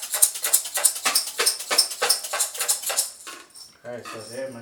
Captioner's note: sounds change when turning the jars